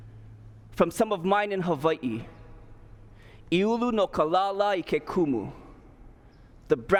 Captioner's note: speaking hawaiian